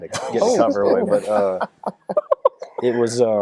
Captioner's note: laughing